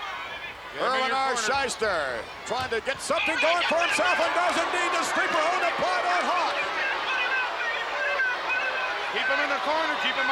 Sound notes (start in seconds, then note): 7.4 Jimmy shouts